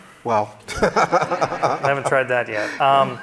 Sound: audience laughing

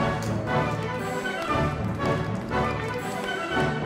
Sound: audience applauding

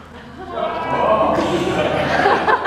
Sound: laughter, etc

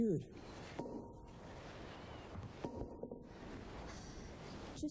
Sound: mallet banging

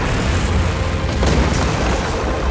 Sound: booming

